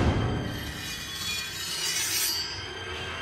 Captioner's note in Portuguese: lâmina arranhando